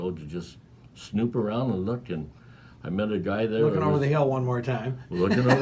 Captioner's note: laughing